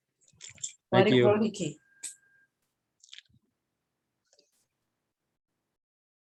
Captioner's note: speaks in foreign language